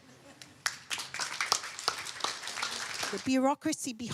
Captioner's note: applause